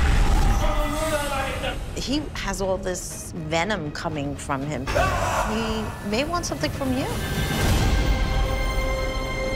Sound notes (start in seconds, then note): 4.8 yells